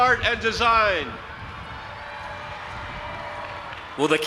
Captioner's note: audience applauding and cheering